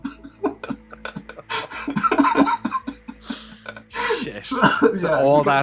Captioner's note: laughter